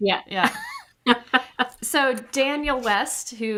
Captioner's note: chuckles